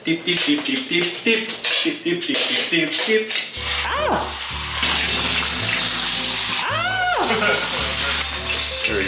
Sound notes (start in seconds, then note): 3.5 salmon sizzling; 7.1 laughs